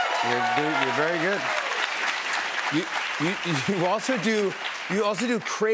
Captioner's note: cheers and applause